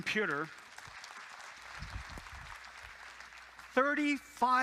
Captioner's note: applause